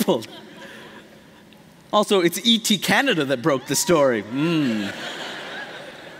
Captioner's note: laughter